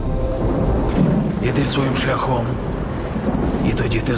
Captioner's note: thunder rumbling